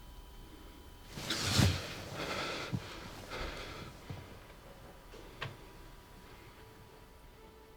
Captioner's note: Tommy panting; Tommy gasping